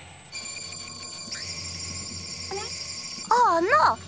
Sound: ray shimmers

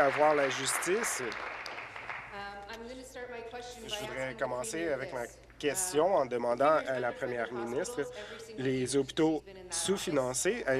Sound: applause

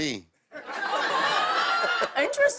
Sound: laughter

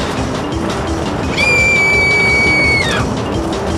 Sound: girl screaming

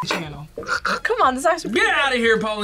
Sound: gags

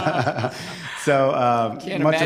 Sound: laughter

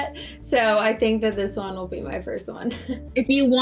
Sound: chuckles

